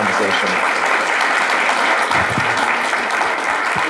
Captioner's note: audience clapping